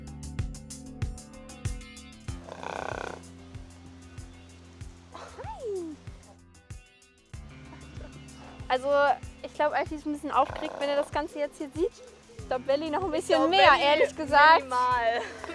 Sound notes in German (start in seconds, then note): 2.4 Grunzlaut